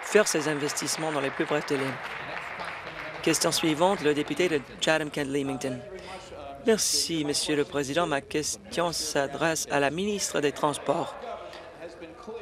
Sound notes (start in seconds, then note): 2.7 applause